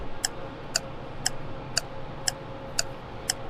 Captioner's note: clock ticking